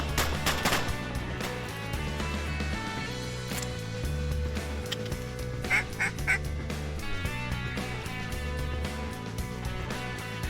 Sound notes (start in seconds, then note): 0.1 gunfire; 5.6 duck call